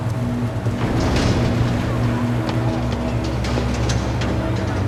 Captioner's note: metal slamming